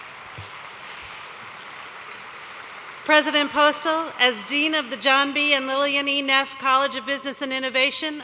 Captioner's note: cheers and applause